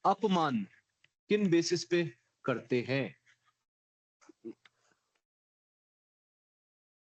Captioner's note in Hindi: गला साफ़ करने की आवाज़